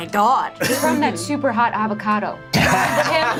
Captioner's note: laughing